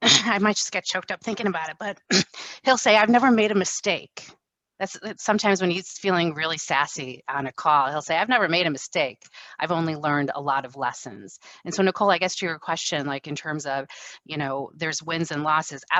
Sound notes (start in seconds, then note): 1.9 coughs